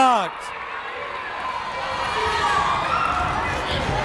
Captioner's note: yelling